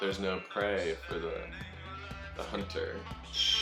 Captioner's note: screeching